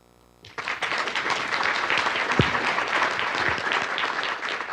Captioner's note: audience applauding